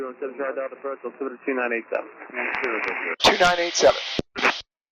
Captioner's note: radio traffic